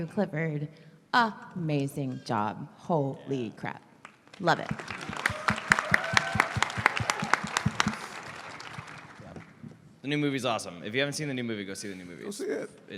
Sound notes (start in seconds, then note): 4.5 applause